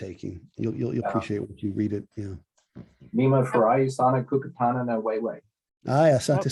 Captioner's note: swahili conversation